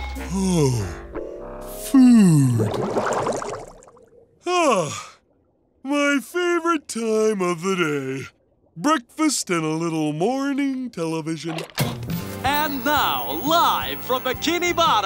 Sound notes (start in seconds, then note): 4.4 sighing